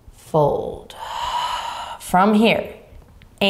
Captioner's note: exhaling deeply